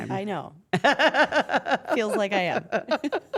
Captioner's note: laugh